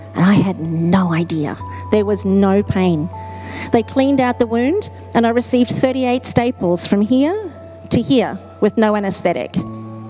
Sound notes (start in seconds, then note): none